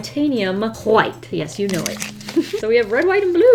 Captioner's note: laughs